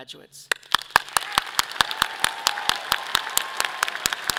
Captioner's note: audience applauding